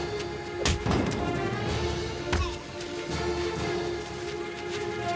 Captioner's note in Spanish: Rechinar de llantas; Golpes; Exclamaciones